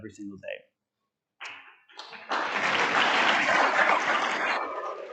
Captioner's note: audience applauds